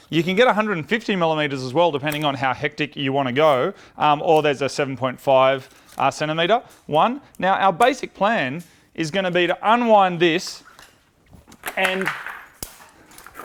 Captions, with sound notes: You can get 150mm as well, depending on how hectic you want to go. Um, or there's a 7.5cm one. Now, our basic plan is gonna be to unwind this, -(clatters) -and (Leatherman snaps shut)